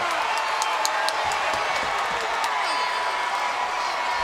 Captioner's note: crowd cheering